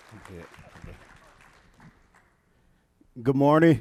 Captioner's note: audience applauds; speaking faintly